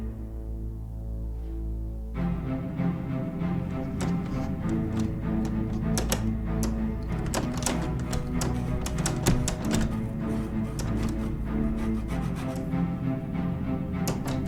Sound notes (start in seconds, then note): 2.2 music quickens; 9.5 sawing outside